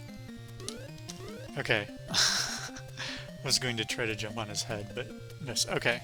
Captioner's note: laughs